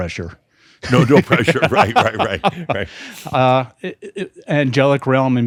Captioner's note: they chuckle